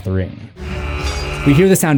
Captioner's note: buzz buzz